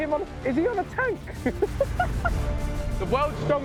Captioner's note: laughing